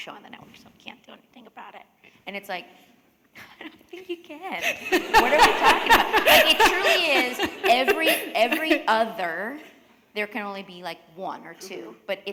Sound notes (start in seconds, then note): 4.6 laughter